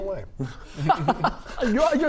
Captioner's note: jealous laugh